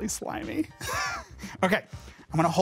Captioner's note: laughs